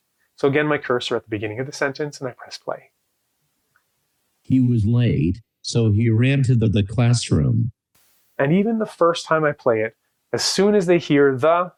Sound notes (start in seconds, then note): 4.4 AI speech